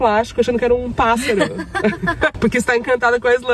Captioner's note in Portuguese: risos